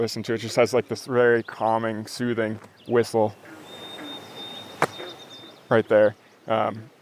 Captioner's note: whistle